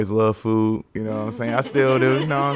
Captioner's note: podcasters laughing